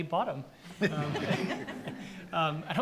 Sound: audience laughs

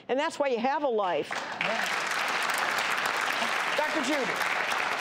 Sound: audience claps

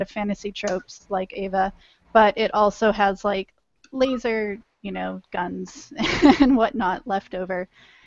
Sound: laughter

